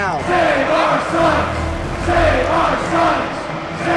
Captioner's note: chanting